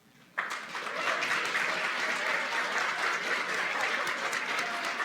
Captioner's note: applause